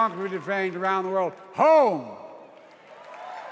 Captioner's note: applause